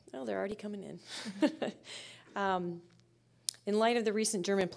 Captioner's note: chuckling